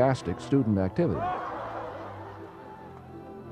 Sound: cheering

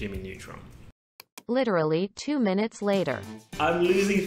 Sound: computerized Voice

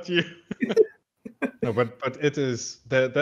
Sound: laughing

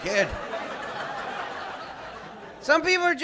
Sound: laughter

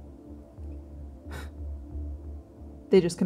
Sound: scoffing

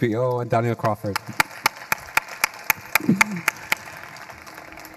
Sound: audience applauding

